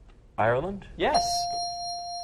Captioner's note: dinging